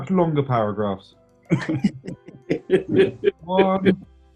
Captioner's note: chuckling